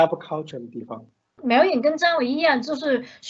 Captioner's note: Mandarin